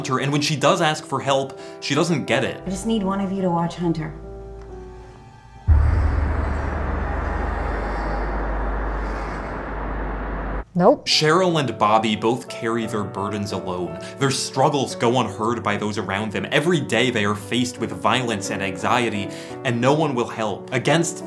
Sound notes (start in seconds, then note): 5.0 ominous screeching sounds